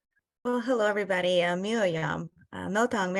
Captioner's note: non-english speech